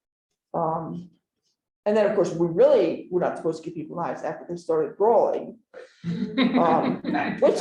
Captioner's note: laughter